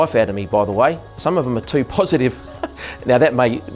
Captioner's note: laughs